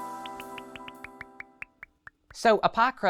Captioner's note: icons popping